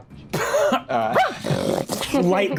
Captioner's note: Brennan laughs; Brennan snarls; Brennan barks